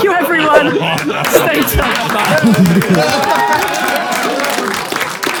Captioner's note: people in room applaud